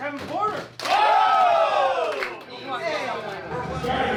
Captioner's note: cheering